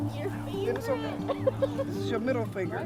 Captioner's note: laughs